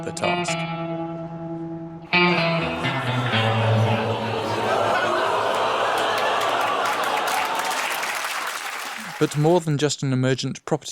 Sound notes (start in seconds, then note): 2.6 laughter; 2.9 applause